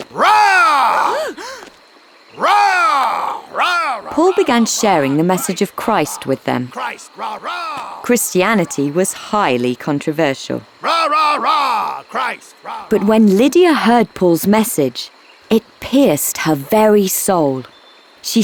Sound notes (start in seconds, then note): 0.2 Paul roaring; 1.0 women gasping; 2.3 Paul roaring; 7.6 roars; 10.8 roars